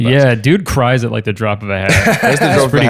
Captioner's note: laughing